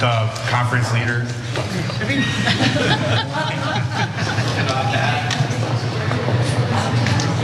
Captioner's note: laugh